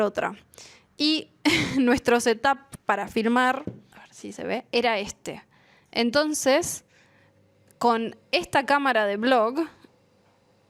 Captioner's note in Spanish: risas